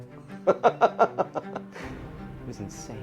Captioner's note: laughs